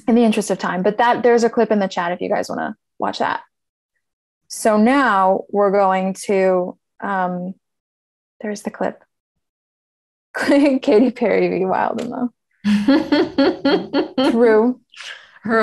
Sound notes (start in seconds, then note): 12.6 laughing